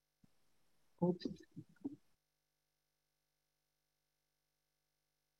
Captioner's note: person faint murmuring